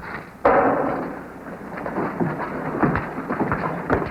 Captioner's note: glass thuds; footsteps thumping